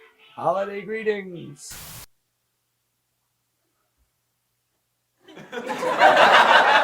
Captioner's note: static crackles; audience laughs